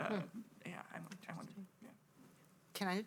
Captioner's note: faintly speaking